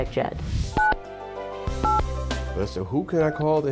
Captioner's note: phone beeps